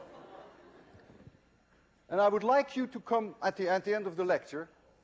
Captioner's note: laughter